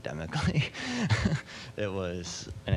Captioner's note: laughing